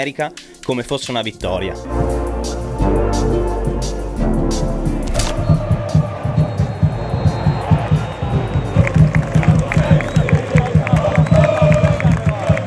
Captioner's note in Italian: Applauso